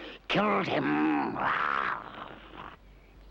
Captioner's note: snarling